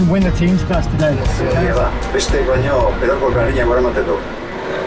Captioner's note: reporter speaking foreign language on TV